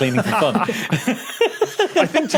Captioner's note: group giggling